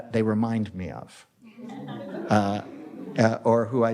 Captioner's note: audience applauds